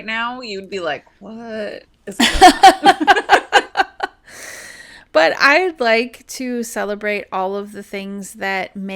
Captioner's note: laughter